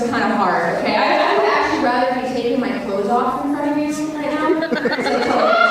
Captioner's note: audience cheers and laughs